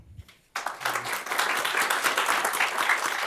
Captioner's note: applause